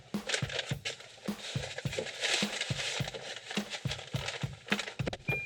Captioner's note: footwell paper cover creaking